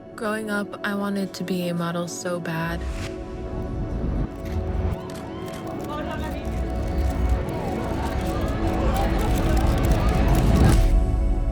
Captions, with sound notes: Growing up, I wanted to be a model so bad. (tense music) (cameras clicking)